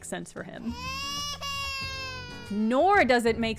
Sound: a baby wails

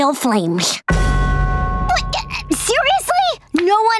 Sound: stammering

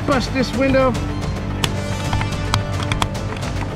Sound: hands clapping

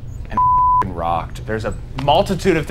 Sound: beep

